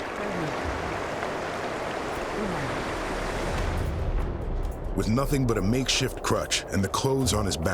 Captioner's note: grunting